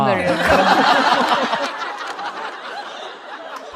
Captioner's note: hahahahahahahaha!